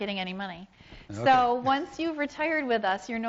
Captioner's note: laughs